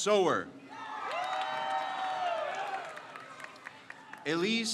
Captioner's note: crowd cheers